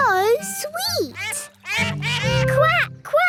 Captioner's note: all laugh